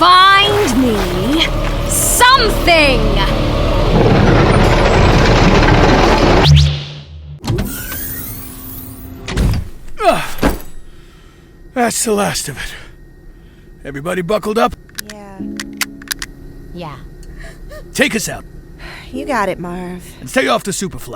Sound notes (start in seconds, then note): 4.2 the wind howls